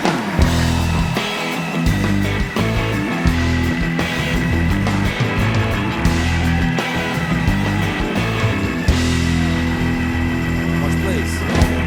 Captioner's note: cheers and applause